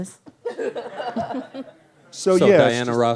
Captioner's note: laughs